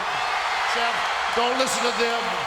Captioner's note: audience cheering